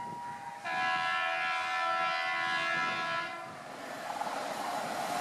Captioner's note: train Honking